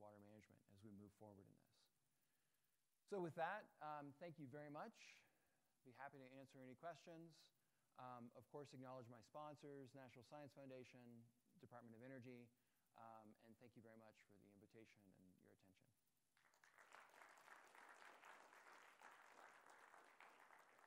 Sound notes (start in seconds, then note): 16.3 applause